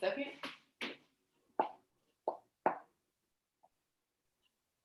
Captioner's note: footsteps falling